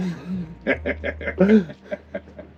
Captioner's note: laughing